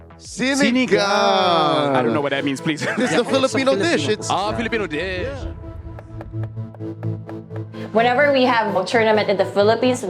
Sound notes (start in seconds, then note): 2.7 chuckles; 6.3 pensive music playing